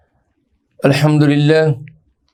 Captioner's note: Arabic